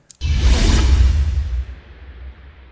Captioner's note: swoosh